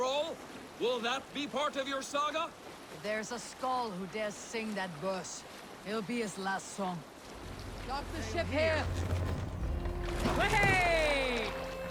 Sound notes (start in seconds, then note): none